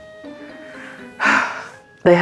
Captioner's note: deep sigh